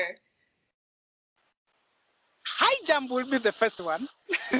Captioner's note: laughter